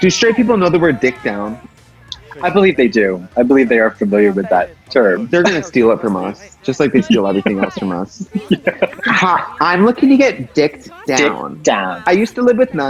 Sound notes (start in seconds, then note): 4.3 laughs; 7.5 laughs